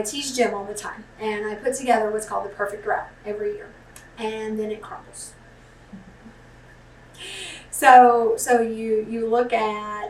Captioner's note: laughs